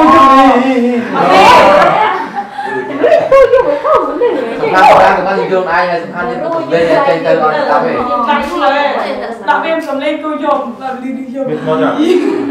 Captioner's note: chattering